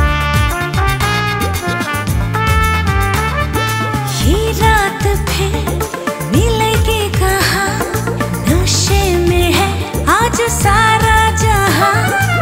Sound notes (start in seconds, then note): none